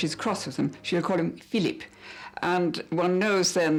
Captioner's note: changes to snooty voice; changes back to normal voice